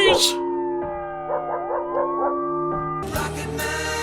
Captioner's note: sirens, barking, bells continue